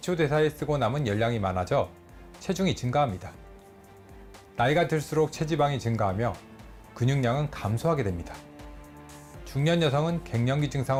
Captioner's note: voiceover